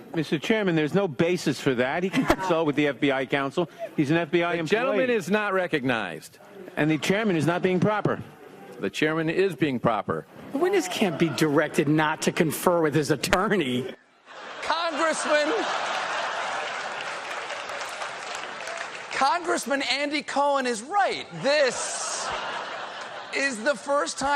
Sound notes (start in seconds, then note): 17.7 applause; 17.7 laughter